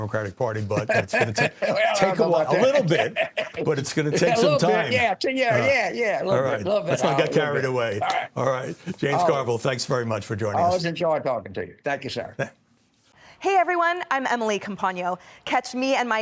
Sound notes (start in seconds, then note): 6.4 laughter